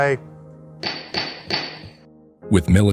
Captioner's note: gavel pounds